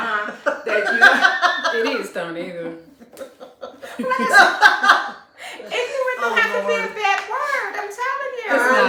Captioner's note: laughter